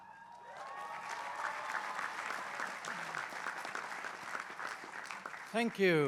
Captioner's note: applause